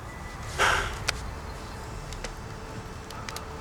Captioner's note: sighs